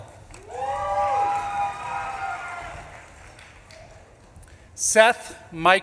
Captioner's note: audience claps and cheers